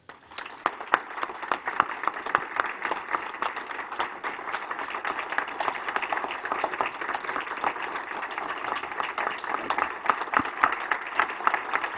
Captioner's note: applause